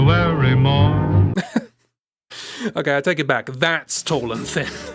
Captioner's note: laughs